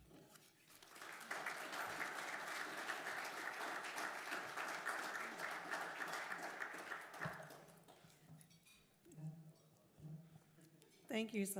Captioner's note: applause